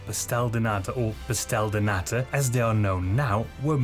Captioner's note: pronounced with heavy English accent